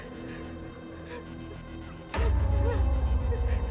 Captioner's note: person crying